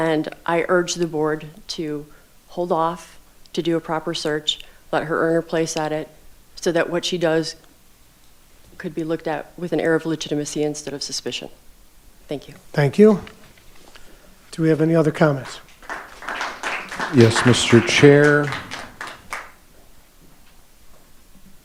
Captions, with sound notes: and I urge the board to hold off to do a proper search, let her earn her place at it so that what she does could be looked at with an air of legitimacy instead of suspicion. Thank you. - Thank you. Do we have any other comments? (audience applauding) - Yes, Mr. Chair.